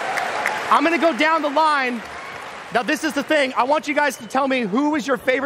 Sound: applause

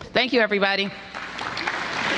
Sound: applause

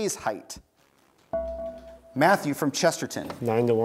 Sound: buzzer beeps

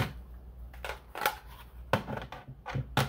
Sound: plastic noises

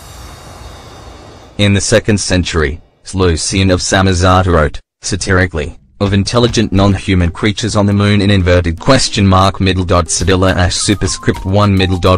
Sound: satirically

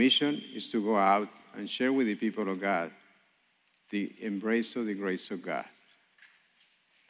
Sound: speaking spanish

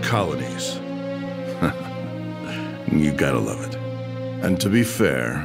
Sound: chuckle

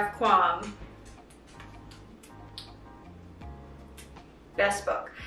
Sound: blowing kisses

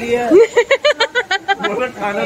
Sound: laughing together

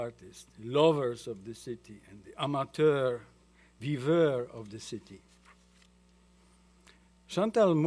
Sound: french

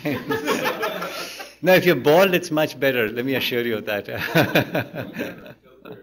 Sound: laughter; laughter; laughs

